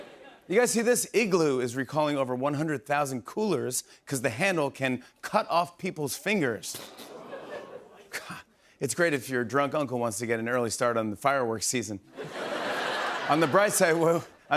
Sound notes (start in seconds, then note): 6.8 audience oohs; 12.1 laughter